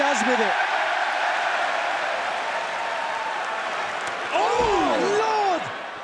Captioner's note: crowd cheering